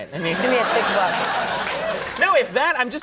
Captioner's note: audience laughing